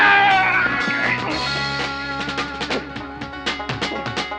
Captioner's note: both grunting